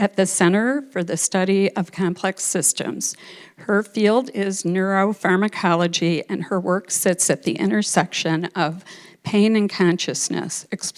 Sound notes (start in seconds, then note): none